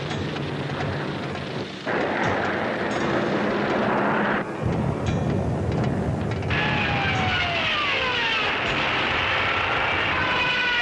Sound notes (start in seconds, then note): 2.0 planes roaring; 6.8 planes screaming